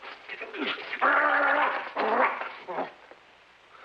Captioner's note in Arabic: يئن